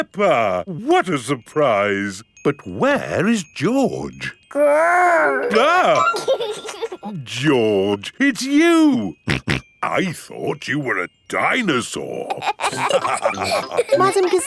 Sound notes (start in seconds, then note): 5.0 giggles; 6.2 exclaims; 9.3 snorting; 12.3 all laughing